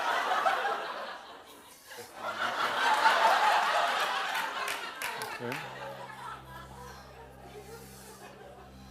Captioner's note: laughter